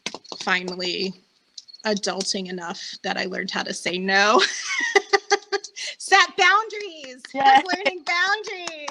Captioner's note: applause